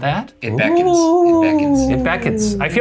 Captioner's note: makes ghost sounds